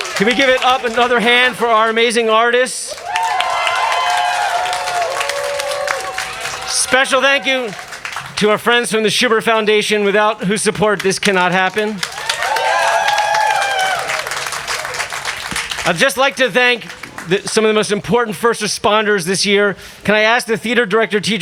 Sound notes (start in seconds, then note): 2.9 crowd cheering; 12.3 crowd cheering